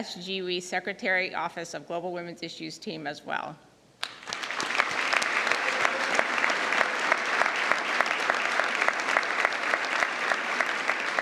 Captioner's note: applause